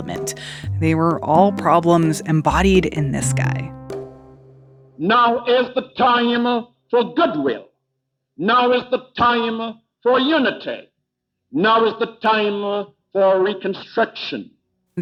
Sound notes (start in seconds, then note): 3.5 soundbite of archived recording